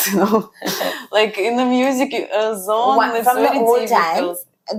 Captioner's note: laughs